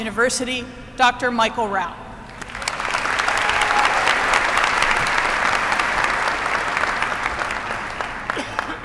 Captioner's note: applause